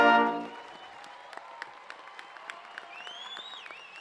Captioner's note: applause